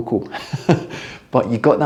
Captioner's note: chuckles